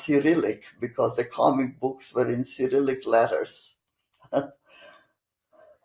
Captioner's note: laughing